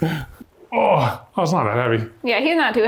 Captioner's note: grunts